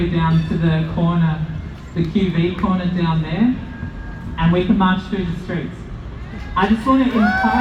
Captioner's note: cheers